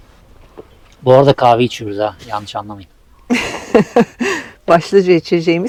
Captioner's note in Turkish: kahkaha